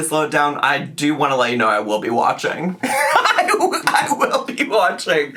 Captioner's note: laughs